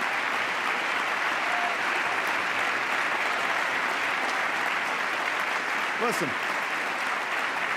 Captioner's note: applause